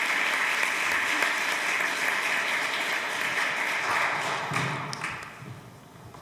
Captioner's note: applause